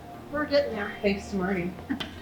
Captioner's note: chuckles